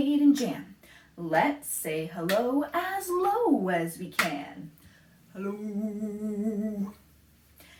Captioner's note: low-pitched